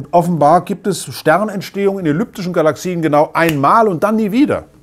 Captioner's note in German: Schnipsen